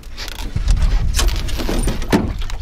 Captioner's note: splash